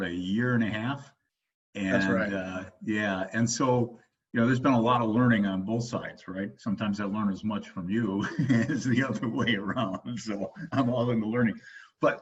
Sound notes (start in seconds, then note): 8.2 laughs